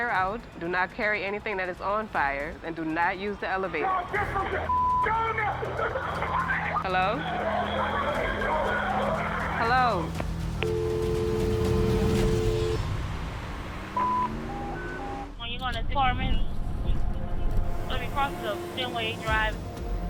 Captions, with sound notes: do not carry anything that is on fire, and do not use the elevator-- Hello? [screaming] Hello? [dial tone] [radio beeps]